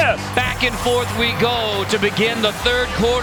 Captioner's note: voiceover